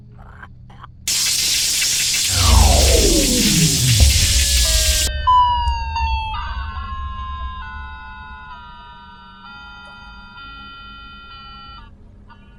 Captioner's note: power flickers and shuts down